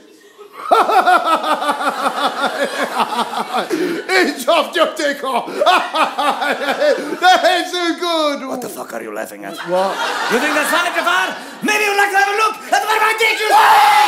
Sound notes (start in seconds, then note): 5.5 laughter